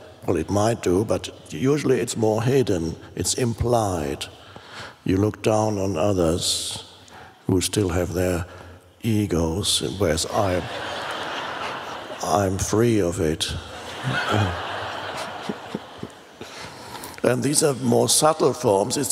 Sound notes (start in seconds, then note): 10.4 crowd laughs